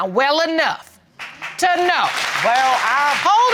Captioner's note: audience applauding